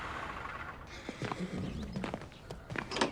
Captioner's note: horse neighing